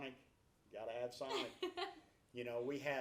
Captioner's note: laughs